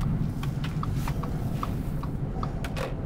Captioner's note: turn signal clicking